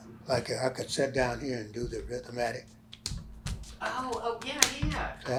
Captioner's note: clapping my hands against his thigh, rhythmically